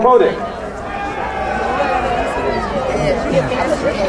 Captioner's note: crowd cheering